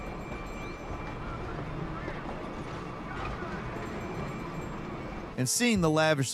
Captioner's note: train rumbles; bell dings